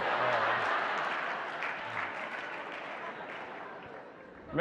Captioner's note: audience applauding